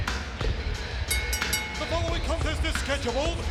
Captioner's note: upbeat music; bell ringing